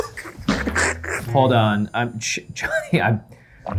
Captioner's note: laugh; beeping